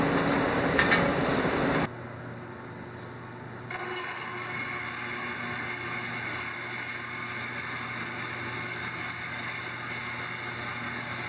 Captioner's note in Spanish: Sonido sierra cinta